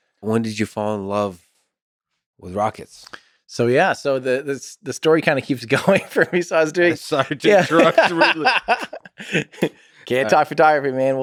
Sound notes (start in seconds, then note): 8.5 Tim laughs